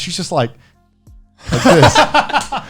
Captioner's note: laughing